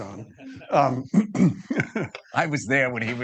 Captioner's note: participants laughing